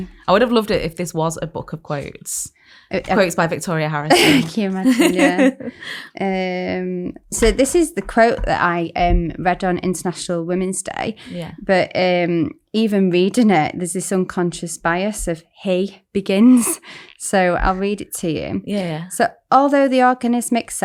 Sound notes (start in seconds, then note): 4.1 laughs